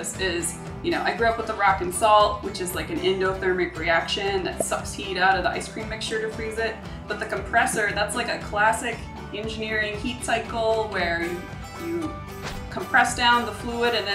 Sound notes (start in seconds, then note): none